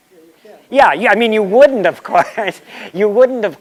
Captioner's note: laughter